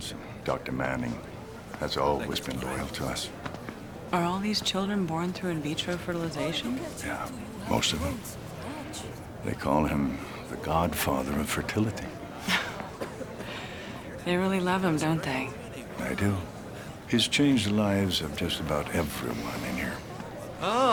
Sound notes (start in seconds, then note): 12.4 laughs